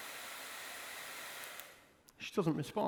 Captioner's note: blowdryer clicks off